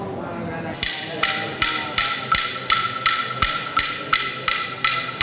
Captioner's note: clacking